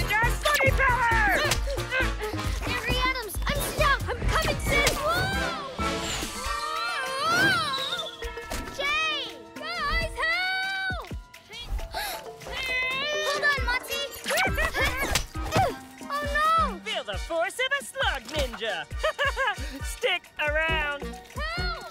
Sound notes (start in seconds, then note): 11.4 straining; 11.8 gasps; 14.2 chuckles